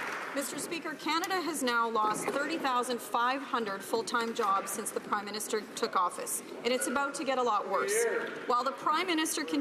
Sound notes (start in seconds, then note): 0.0 some Applause